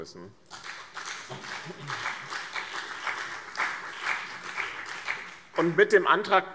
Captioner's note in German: Beifall BÜNDNIS 90/DIE GRÜNEN und CDU